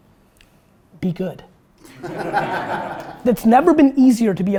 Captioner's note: group laughter